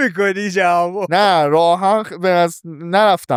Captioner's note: laughs